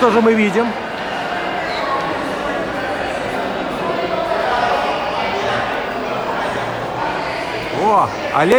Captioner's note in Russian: гомон голосов